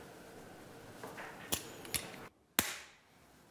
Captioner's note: snapping